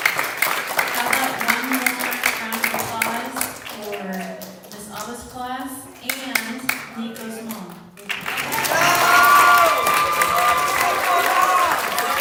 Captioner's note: applause